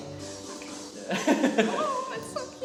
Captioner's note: laughing